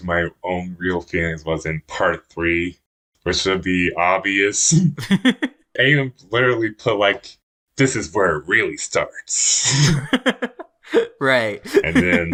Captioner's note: both laugh; laughs